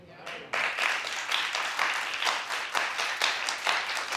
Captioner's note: audience applause